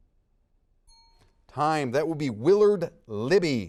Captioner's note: bell rings